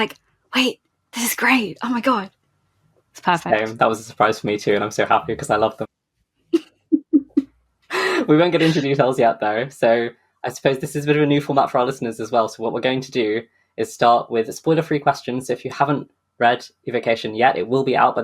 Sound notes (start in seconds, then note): 4.4 laughs